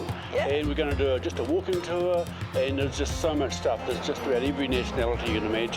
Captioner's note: traffic noise